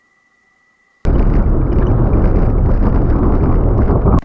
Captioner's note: wind blowing